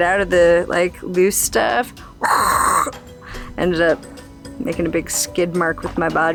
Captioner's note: whooshing sound